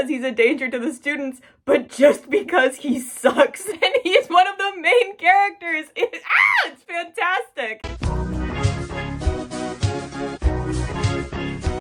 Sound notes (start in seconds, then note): 6.2 screams; 7.8 funky music